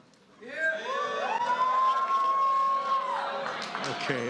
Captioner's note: cheering